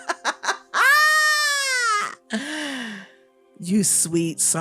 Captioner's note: deep breath of reality